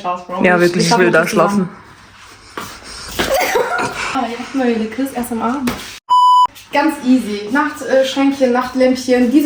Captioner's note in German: gelächter